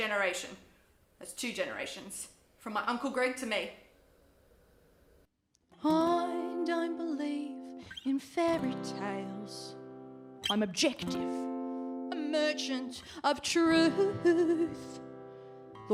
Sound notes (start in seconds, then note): none